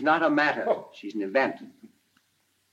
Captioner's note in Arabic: يضحك الرائد